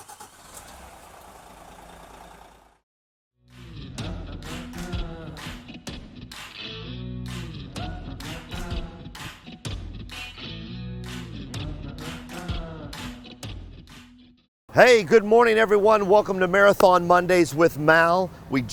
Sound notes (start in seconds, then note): 0.0 engine rumbling; 4.4 upbeat music